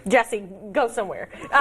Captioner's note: laughter